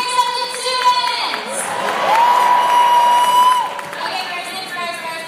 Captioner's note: applause